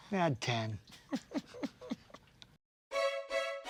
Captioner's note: laughing